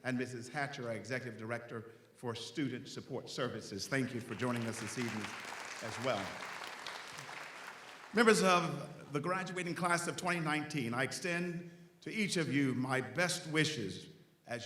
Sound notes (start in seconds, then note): 6.6 audience applauds